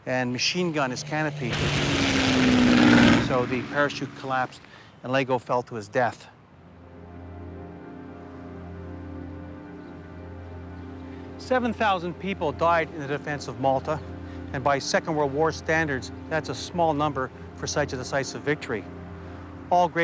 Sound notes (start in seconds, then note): 2.3 aircraft engine roars; 7.7 somber music